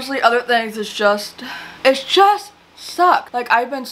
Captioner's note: sighs